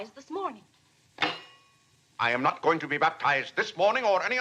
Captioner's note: cutlery clanks